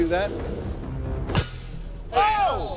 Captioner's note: blade clangs